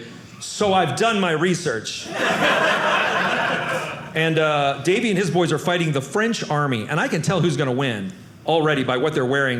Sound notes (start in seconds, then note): 2.0 audience laughing